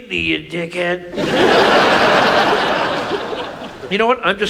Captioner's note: audience laughs